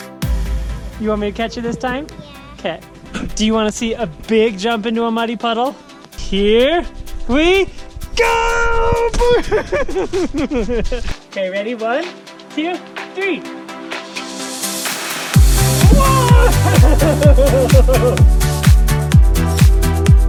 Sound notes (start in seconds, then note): 9.1 laughs; 17.6 upbeat music